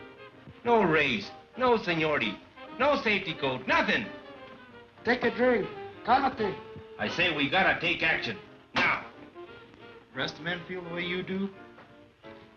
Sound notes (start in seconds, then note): 5.6 speaks Spanish